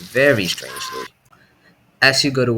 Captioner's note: scream